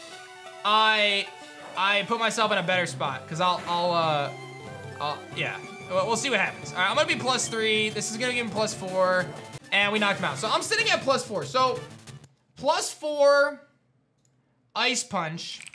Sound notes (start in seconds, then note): none